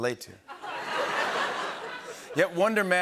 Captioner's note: laughter